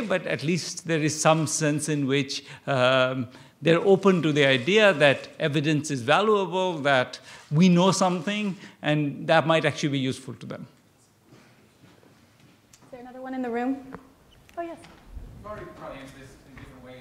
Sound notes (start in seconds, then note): none